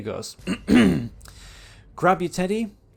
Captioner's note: ahem